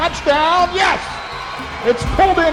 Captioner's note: crowd Noise